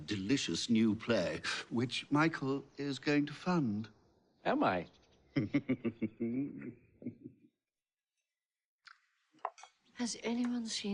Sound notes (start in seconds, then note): 7.9 chuckles